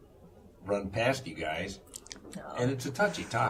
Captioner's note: laughter